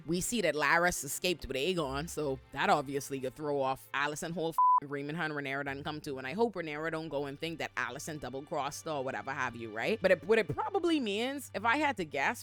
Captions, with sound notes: We see that Laris escaped with Aegon. So that obviously could throw off Allyson whole (beep) and Rhaemon, Han, Rhaenor, and then come to. And I hope Rhaenor don't go and think that Allyson double crossed or whatever have you, right? But what it probably means, if I had to guess,